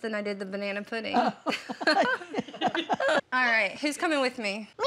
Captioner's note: grandma laughs